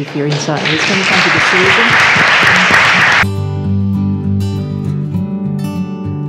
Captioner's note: applause